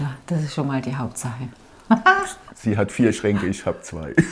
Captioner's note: laughter